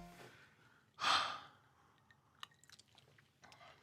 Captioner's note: sigh